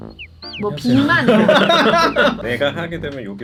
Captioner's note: laughter